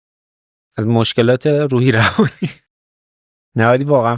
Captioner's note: laughs